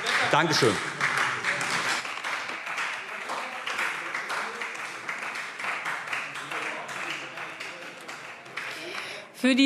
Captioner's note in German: Beifall Freie Demokraten - Widerspruch AfD